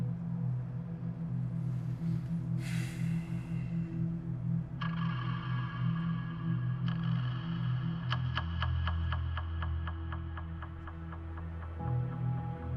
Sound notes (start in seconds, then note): 2.6 Ben sighs; 4.5 tense music